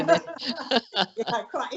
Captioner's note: all laugh